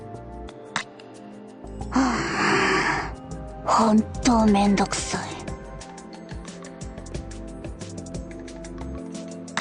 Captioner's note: sigh